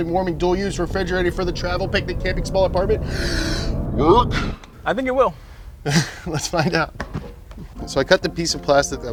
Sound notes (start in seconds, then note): 3.0 inhales; 5.9 laughs; 7.7 playful music